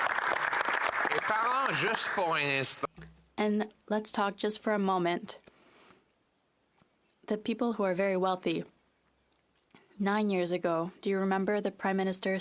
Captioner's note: some Applause